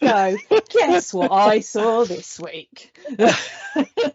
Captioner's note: laughter